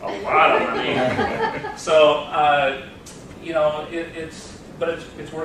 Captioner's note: laughter